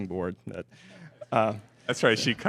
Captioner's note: laughter